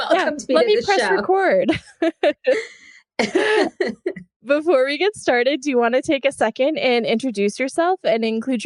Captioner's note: laughs